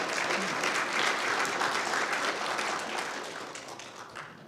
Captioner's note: audience applauding